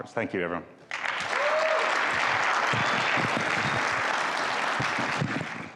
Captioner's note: audience applauding